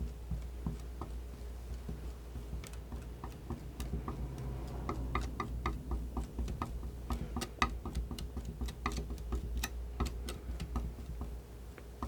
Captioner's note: tapping